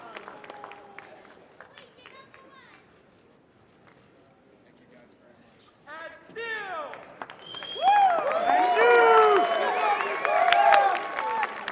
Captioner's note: applause